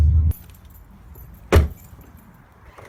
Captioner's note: door closes